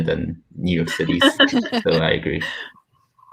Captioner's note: laughs